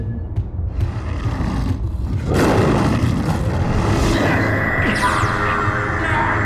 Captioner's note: grunts